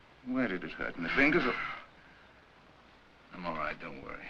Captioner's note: Barney exhales